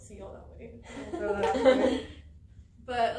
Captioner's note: all laugh